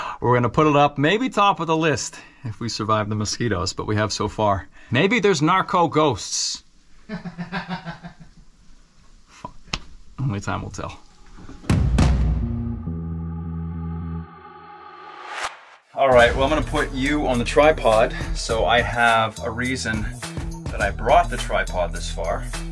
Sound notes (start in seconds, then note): 7.1 laughing; 12.4 excited music